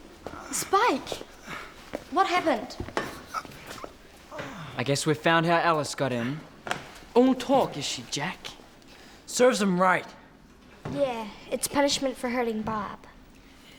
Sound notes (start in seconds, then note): 4.3 groaning